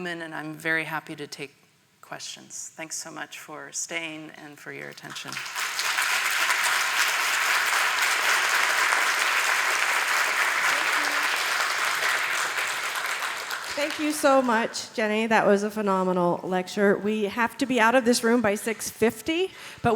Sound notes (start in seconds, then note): 5.6 audience applause